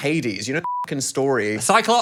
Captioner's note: beep